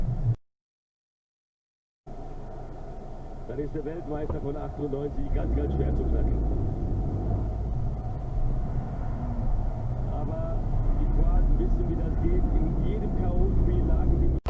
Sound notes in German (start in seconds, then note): 3.5 Hörbare Fußballspiel-Übertragung